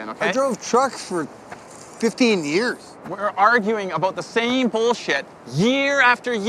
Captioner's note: none